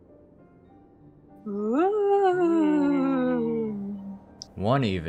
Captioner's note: howls